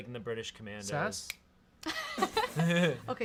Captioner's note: snaps fingers; laugh